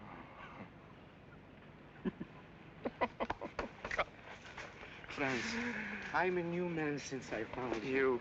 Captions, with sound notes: [ FRANZ CHUCKLES ] Franz, I am a new man since I found Him.